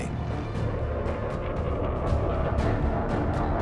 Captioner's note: engine roars